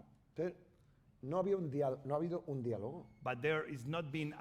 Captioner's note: speaking spanish